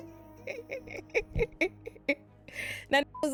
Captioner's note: laughing